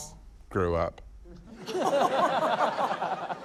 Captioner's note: laughter